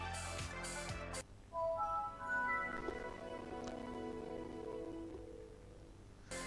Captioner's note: The glorious Windows 7 sound